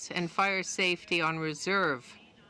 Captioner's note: speaking in French